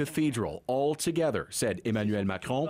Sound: speaking French

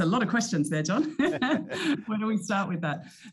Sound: chuckles

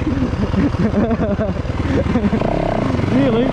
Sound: laughter

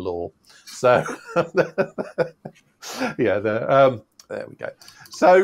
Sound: laughs

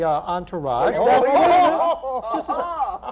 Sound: shouting & laughter

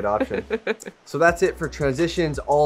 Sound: laughs

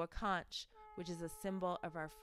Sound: blows conch

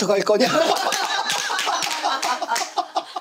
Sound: clapping

